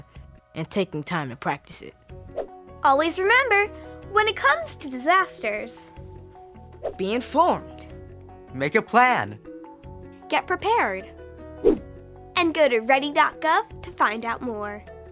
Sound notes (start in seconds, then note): 11.6 swoosh